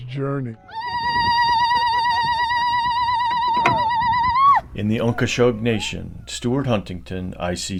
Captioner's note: ululating